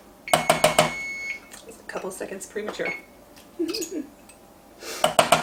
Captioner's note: oven beeping